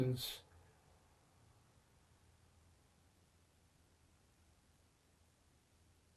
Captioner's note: pauses 6 seconds